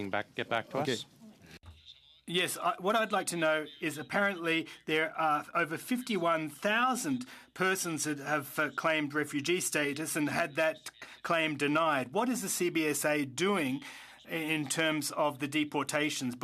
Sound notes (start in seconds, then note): 9.7 speaking French